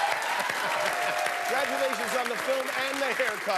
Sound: applause

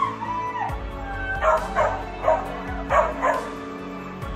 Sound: dog barking

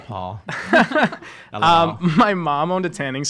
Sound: laughing

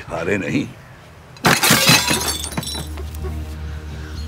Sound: objects clattering

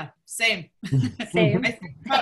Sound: chuckling

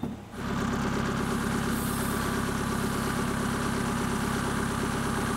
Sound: engine and hissing

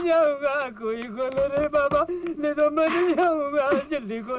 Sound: door knocking

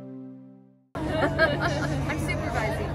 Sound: people laughing

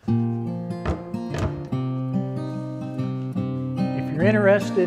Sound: gentle music; door closing

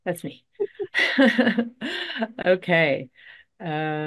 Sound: laughter

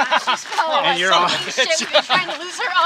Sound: laughter

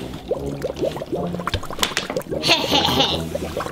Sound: drink bubbles; laughs

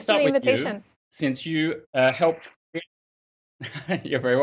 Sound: laughs

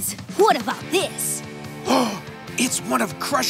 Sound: gasping

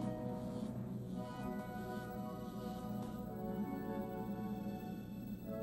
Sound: laser noises

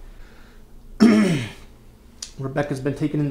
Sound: clears throat

